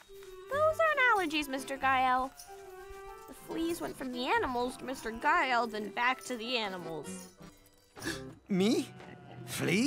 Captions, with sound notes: Those aren't allergies, Mr. Gael. The fleas went from the animals to Mr. Gael, then back to the animals. [gasps] Me? Fleas?